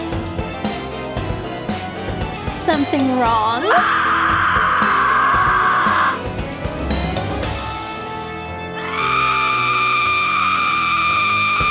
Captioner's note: scream